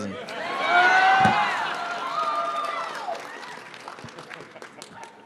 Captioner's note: audience cheers